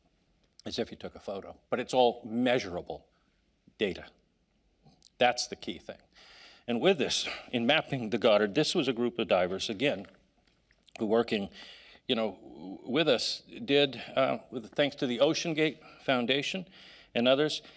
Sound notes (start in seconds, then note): none